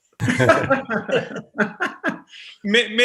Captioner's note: actors laughing